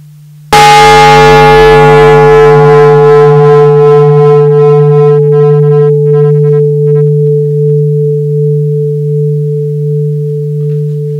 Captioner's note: the bell is invited to sound